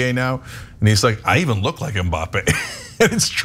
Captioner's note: laugh